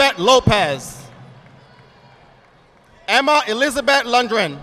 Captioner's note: audience applauding